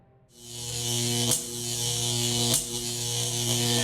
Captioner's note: static buzzes